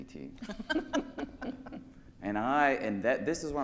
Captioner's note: panelists laugh